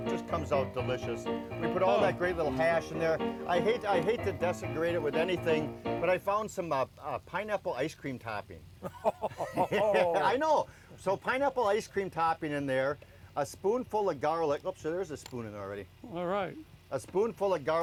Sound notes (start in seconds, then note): 0.0 cheerful piano music; 8.8 laughing